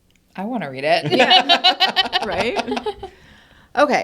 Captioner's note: all laugh